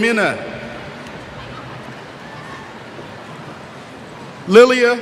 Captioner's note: cheers